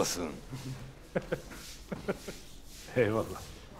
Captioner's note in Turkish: Gülme sesi